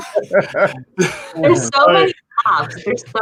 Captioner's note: hosts laugh